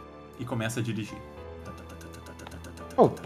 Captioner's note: motor